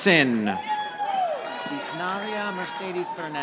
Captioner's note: audience applauding